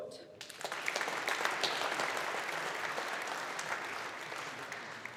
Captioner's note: audience applauding